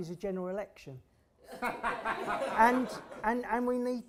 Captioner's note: laughter